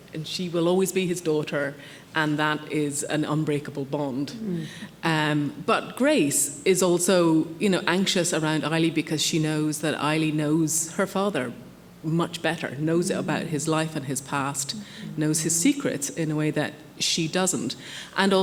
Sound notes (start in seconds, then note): none